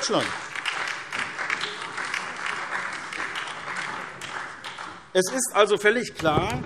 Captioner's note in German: Beifall SPD, vereinzelt BÜNDNIS 90/DIE GRÜNEN und DIE LINKE